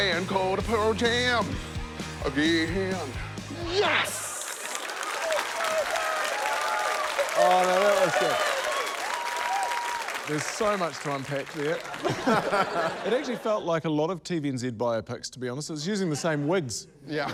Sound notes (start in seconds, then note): 5.9 cheering, applause; 11.9 laughter